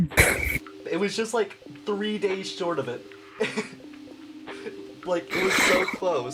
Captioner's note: laughter